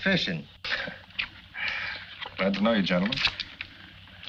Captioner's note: chuckles